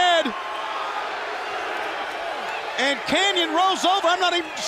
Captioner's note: crowd cheering